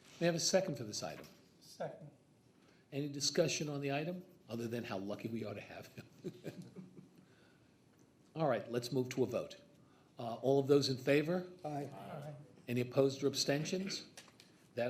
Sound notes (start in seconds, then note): 5.9 laughs